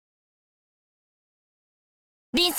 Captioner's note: silence